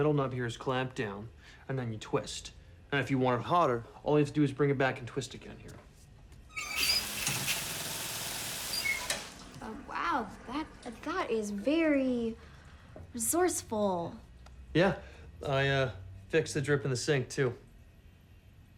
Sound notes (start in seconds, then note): 6.5 creaking; 8.6 shower pelting